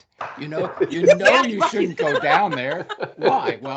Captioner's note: laughing